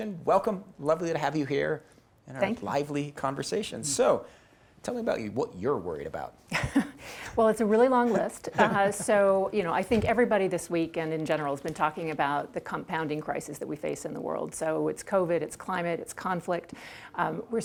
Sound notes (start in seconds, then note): 7.9 laughs